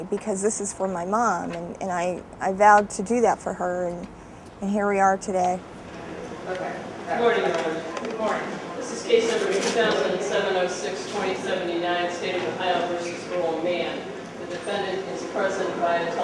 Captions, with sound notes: because this is for my mom and I vowed to do that for her, and here we are today. (background chattering)